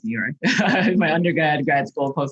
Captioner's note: chuckles